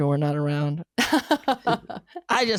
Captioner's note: laughing